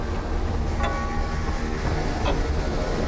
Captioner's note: intense music; clock chimes